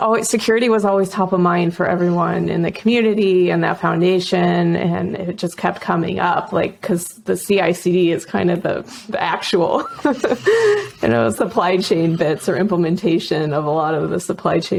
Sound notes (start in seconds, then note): 9.7 laughing